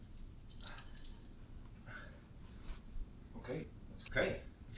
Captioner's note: metals clings